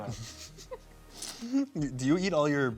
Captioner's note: laughs